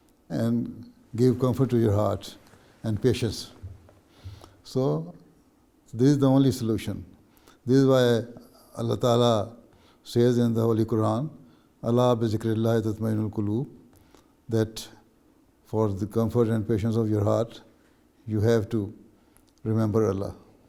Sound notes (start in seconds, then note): 14.6 Arabic